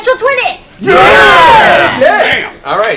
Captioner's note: all cheer